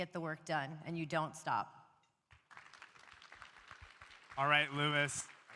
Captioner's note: applause